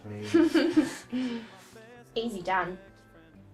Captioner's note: laughing